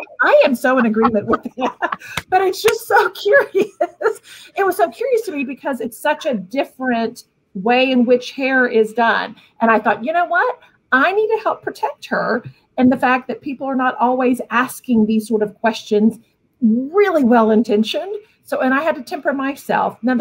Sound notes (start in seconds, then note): 2.0 laughing; 2.0 clapping; 4.1 laughs